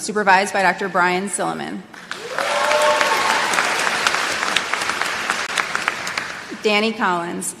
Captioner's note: applause